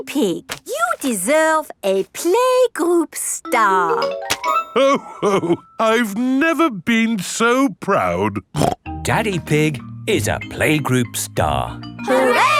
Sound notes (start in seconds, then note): 8.5 snorts